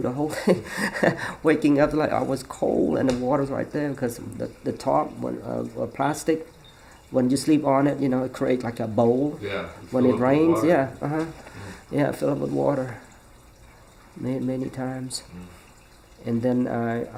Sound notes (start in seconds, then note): 0.9 laughs